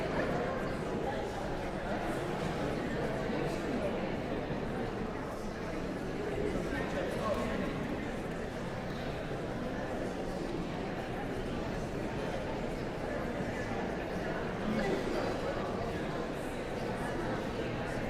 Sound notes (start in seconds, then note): 9.6 audience chattering continues